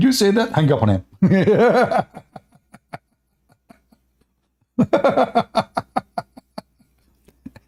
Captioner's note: Ketawa